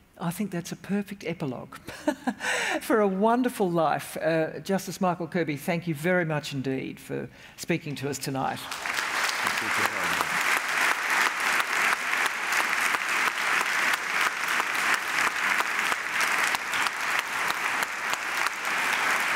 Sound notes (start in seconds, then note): 8.6 applause